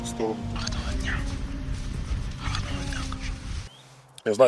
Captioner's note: whispers